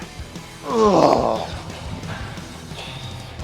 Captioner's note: Sheamus grunting; upbeat rock music continues